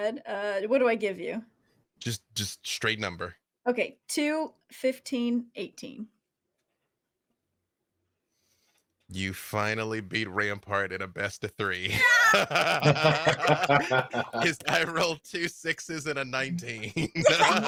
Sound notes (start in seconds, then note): 11.9 group cheers and laughs